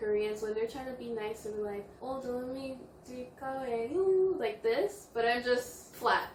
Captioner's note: Korean